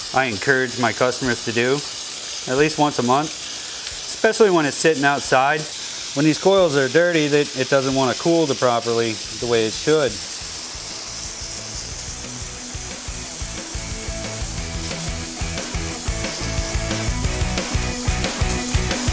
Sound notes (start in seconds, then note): 11.8 upbeat music; 12.1 sound of water spraying